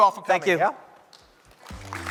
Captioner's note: applause